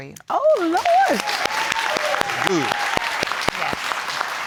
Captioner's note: audience applauds